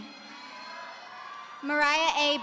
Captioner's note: audience cheering